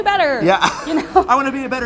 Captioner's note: laughing